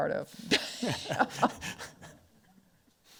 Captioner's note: laughs